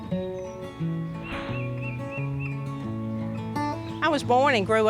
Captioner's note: gentle guitar music; bird chirping